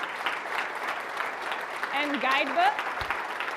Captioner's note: audience applauding